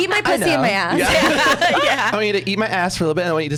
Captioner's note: laughs